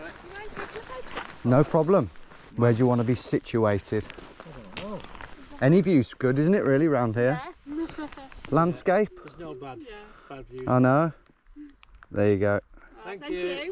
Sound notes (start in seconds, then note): 7.7 chuckles